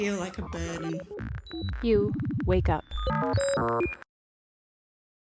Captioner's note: glitch sound